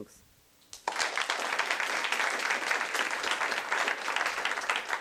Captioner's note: applause